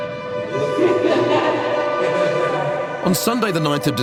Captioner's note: laughing